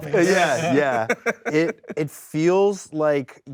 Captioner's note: host laughs